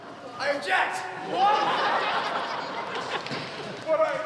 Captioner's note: laughing